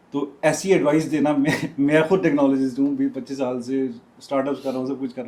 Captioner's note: laughter